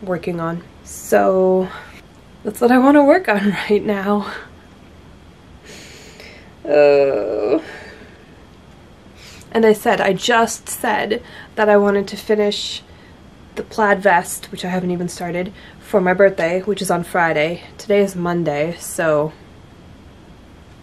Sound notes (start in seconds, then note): 6.6 groans